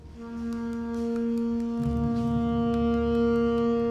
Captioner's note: regular tapping